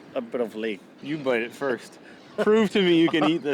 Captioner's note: laughing